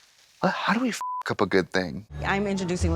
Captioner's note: beep